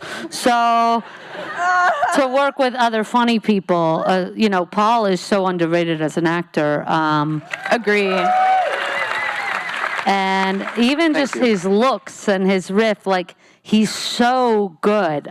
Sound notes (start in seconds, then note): 1.4 laughing; 7.4 cheering; 8.0 audience whistling, cheering